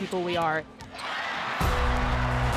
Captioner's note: crowd cheering